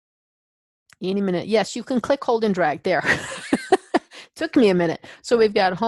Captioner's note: laughs